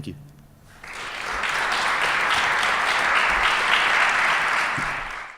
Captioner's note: applause